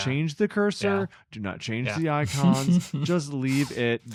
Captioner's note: laughs